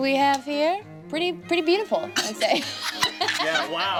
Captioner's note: laughs